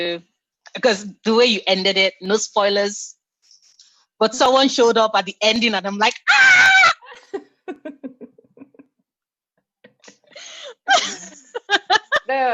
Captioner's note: laughter